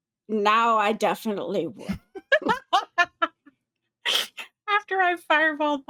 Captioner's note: cast members laughing